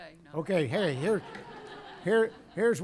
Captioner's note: laughter